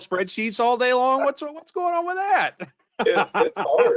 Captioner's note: laughing